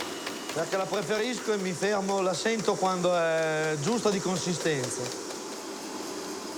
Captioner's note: speaks in foreign language